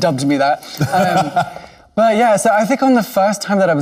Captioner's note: laughing